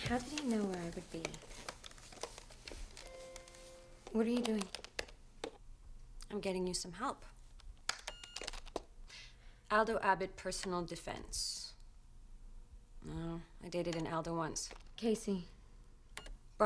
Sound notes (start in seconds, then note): 2.9 computer chimes; 7.9 keyboard keys clicking; 8.2 beeping